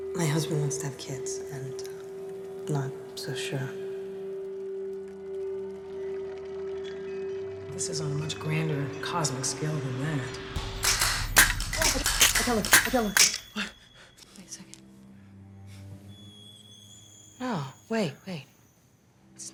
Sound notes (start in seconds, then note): 5.2 mysterious music; 10.6 traps clapping; 10.9 Robin exclaiming; 14.2 gasps; 15.9 suspenseful violin music